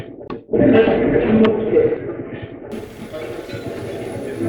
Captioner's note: radio voice; radio channel changing